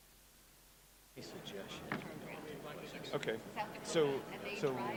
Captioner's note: crowd murmuring